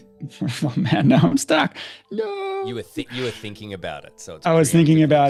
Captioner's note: laughter